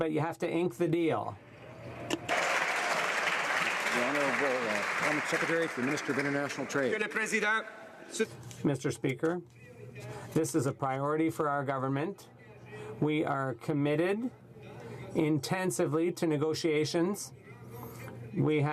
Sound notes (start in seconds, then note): 5.7 some Applause